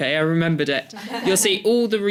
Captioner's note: laughs